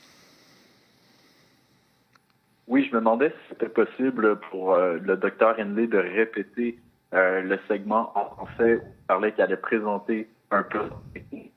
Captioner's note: speaking French